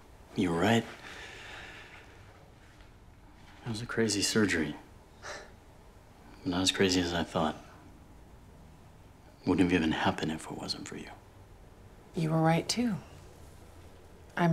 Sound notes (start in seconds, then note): 1.0 inhales deeply; 5.2 exhales sharply